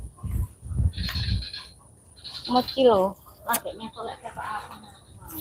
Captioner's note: cricket Sound